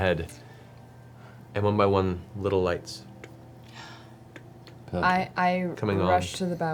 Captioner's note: click click click